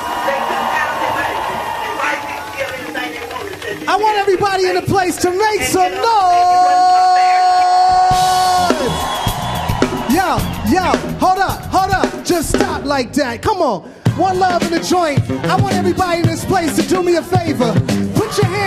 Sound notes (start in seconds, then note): 0.2 audience cheering; 9.0 audience cheering